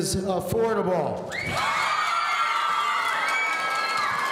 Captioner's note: audience cheering